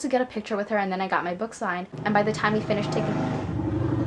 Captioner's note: motorcyle noise